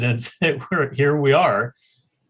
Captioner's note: laughs